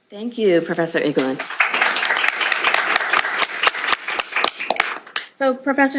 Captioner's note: applause